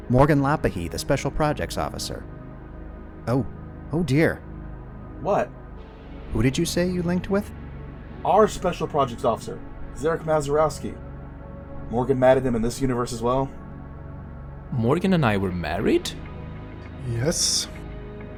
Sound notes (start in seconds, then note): none